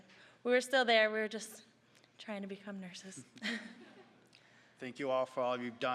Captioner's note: audience chuckling